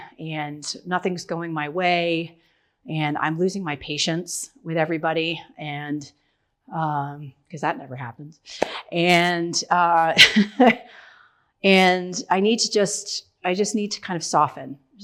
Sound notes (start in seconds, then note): 9.2 laughs